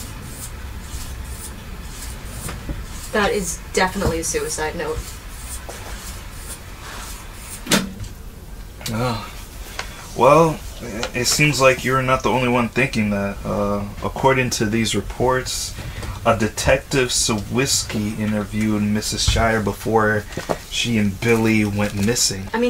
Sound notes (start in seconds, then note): 7.8 switch clicking